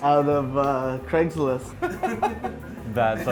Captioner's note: laughing